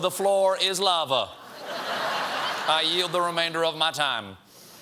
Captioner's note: laughter